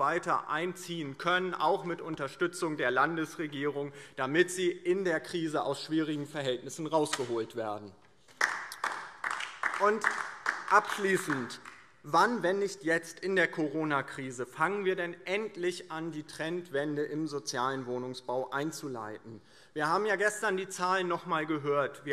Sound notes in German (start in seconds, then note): 8.2 Beifall DIE LINKE